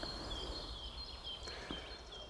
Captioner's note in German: Vogelzwitschern